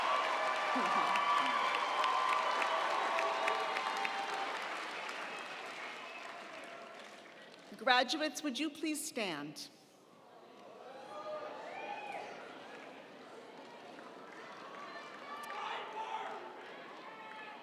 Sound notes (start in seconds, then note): 0.7 laughing; 10.7 attendees chattering; 10.7 attendees cheering